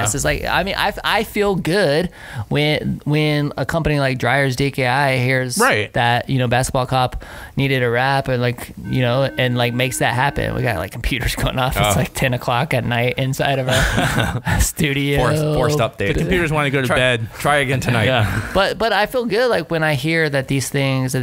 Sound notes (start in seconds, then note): 8.8 alarm tone